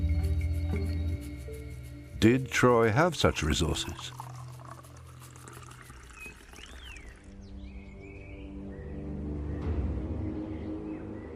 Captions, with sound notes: Did Troy have such resources? (water gurgling) (birds chirping)